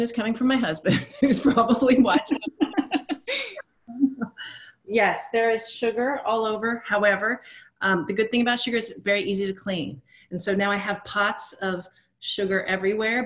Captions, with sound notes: coming from my husband, who's probably watching right-- [LAUGHS] Yes, there is sugar all over. However, the good thing about sugar is it's very easy to clean. And so now I have pots of sugar everywhere,